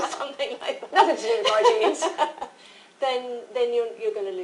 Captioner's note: laughter